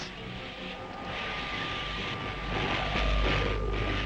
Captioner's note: machine whirring